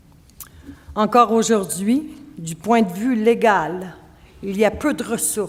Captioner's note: speaking French